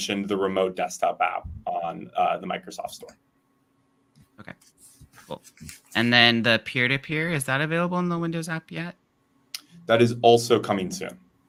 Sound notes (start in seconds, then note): none